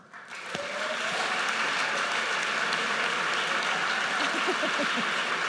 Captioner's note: audience cheers and applauds